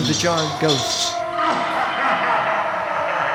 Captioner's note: ghost laughs